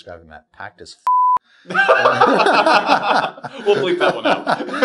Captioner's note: both laughing